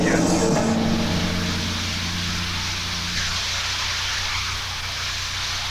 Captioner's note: shower water pattering